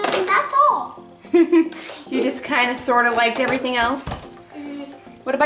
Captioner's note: laughs